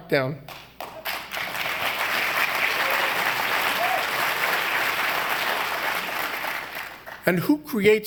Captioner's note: applause